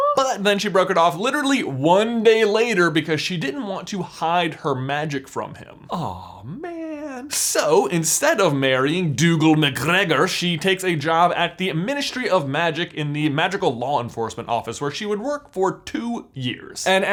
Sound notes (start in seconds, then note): none